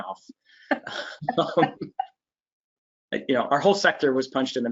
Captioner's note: laughing